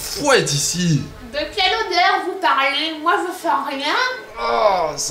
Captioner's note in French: bruit de mouches